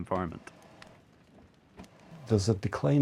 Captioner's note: fire crackling continues